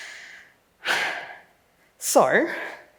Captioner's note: sighs